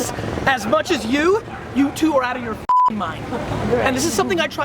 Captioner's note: beep